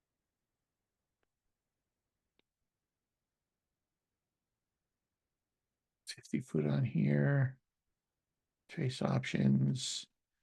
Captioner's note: silence